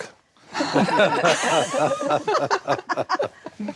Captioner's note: all laugh